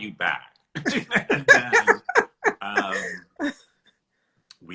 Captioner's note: both laughing